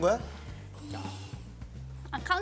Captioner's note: inhale